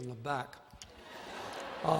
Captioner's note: laughter